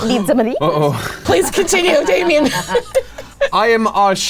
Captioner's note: laughs